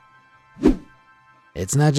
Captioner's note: image whooshing